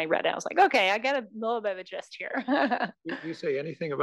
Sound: laugh

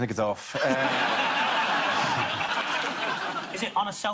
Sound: audience laughs

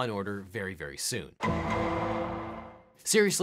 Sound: gavel bangs

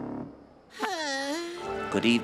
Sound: groaning

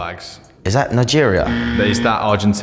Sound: incorrect buzzer

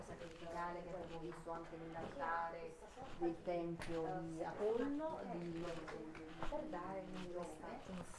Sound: background chatter

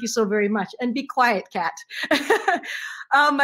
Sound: laughs

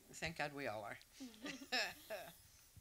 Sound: chuckles

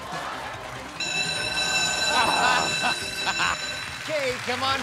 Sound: alarm blaring

